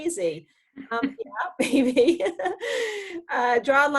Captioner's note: laughs